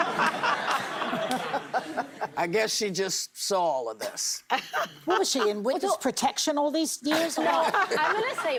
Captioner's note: laughter